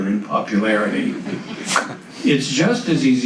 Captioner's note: audience laughs